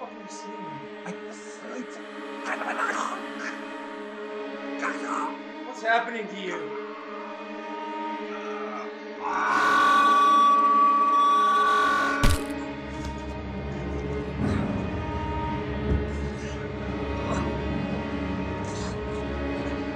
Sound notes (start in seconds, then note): 11.9 distorted beep; 12.2 punch